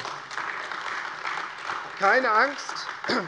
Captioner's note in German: Beifall AfD